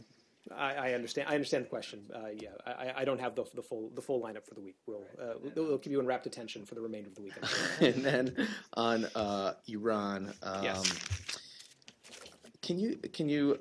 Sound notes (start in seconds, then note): 7.3 laughter